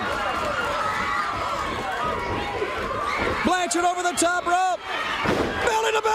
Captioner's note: crowd cheering